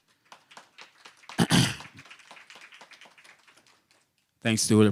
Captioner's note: applause